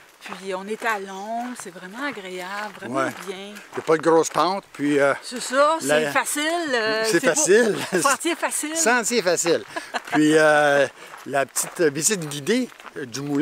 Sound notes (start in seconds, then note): 6.9 laughing